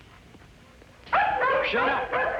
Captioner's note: dogs Barking